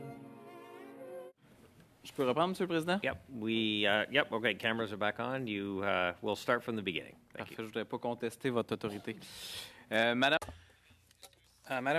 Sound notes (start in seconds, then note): 6.5 speaking French